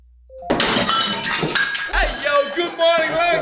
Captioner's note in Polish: tłuczenie talerzy